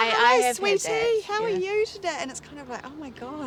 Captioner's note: in patronizing voice